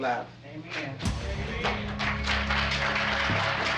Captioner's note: applause